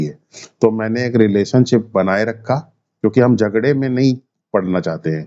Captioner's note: nasal sound